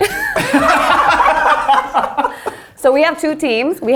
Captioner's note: all laughing